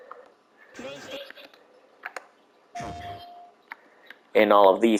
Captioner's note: quiet sound effect as PlayStation is moused over